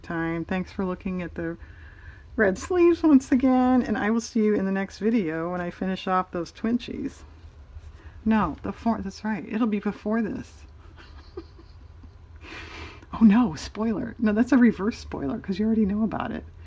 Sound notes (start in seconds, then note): 10.8 laughs